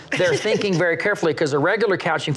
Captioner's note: laughs